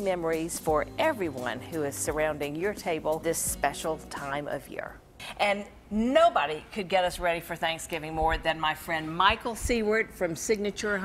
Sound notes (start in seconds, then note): none